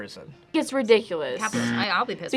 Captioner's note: buzzer rings